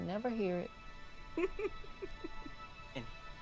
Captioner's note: chuckles